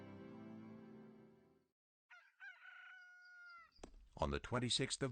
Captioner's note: rooster crows